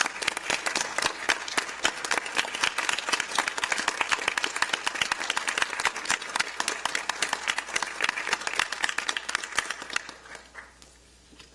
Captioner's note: applause